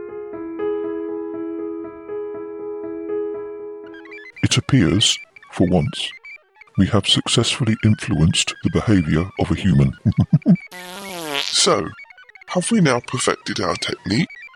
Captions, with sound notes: It appears, for once... we have successfully influenced the behaviour of a human [laughs] [passing wind] So, have we now perfected our technique?